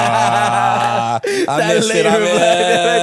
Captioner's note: laughing